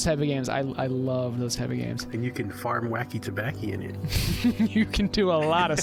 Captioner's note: laughter